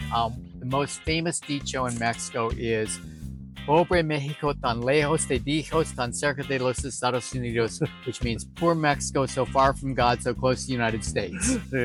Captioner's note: spanish